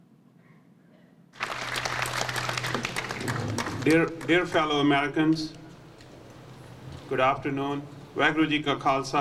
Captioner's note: applause